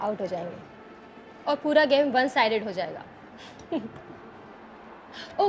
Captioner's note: Laughs